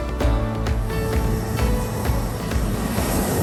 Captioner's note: engines roaring